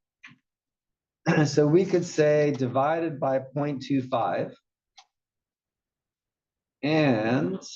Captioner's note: cough